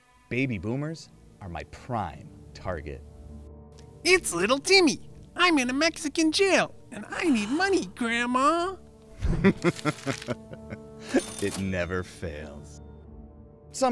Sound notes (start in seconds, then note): 9.2 laughing; 11.1 cash register rings